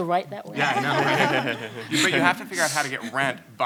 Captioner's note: panelists laugh